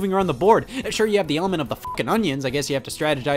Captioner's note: beeps